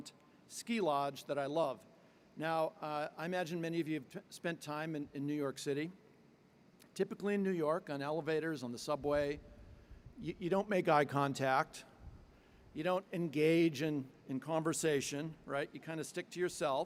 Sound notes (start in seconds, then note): none